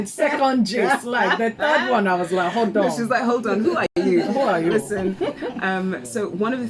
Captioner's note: laughs